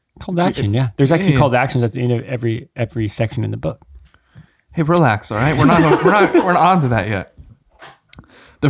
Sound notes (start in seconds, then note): 5.3 all chuckling